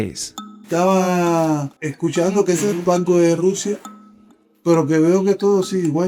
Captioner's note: speaker speaking in Spanish